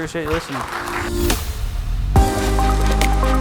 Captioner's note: audience applauds; relaxed electronic music